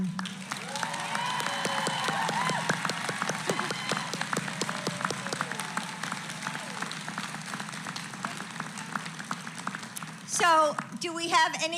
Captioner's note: applause